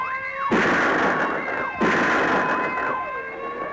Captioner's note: weapon firing